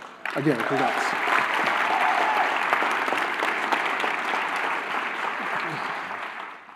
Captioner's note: applause